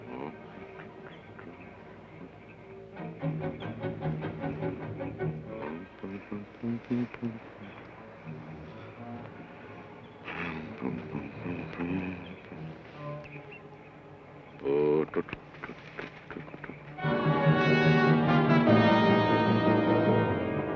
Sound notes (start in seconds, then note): 0.2 Joshua hums melodically; 14.8 Joshua hums melodically; 16.9 tense orchestral music